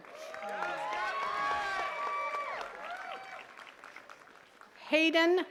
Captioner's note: attendees cheering and clapping